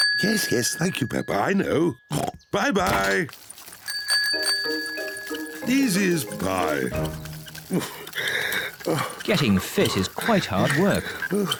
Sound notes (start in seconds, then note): 0.0 bell rings; 2.0 oinks; 3.8 bell rings